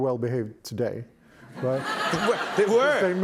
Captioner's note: laughter